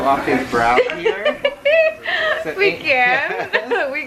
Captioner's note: laughs